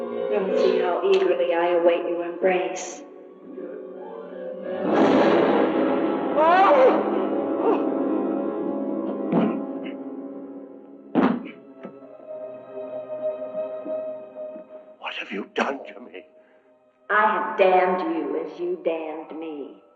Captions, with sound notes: Come and see how eagerly I await your embrace. - [tense music] - [yelling] What have you done to me? I have damned you, as you damned me.